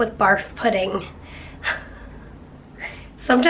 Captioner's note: chuckles